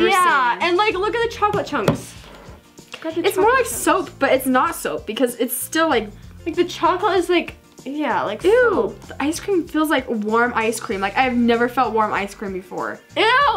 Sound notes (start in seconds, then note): none